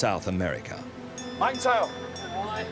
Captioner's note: bell chimes